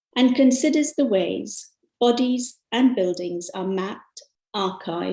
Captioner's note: none